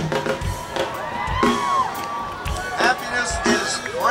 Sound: crowd cheering

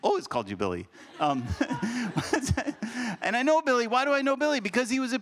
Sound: laughs

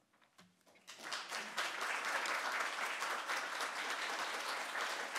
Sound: audience applauding

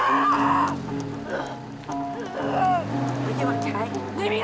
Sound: Eddy screaming; engine turning over

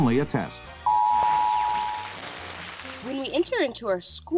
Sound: TV alarm buzzes

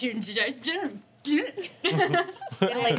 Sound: laughing

